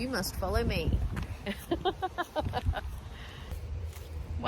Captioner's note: chuckles